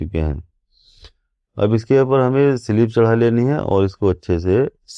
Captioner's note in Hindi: नाक से की जाने वाली आवाज़